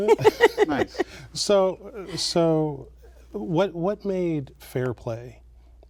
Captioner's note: laughter